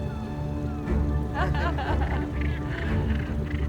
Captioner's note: laughter